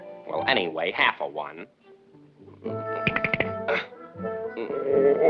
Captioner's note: back cracking